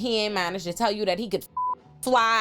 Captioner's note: beep